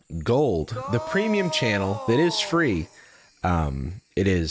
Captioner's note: disembodied voice